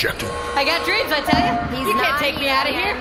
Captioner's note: buzzer sound